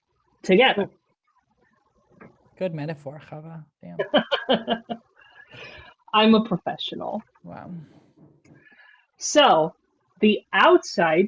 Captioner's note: laugh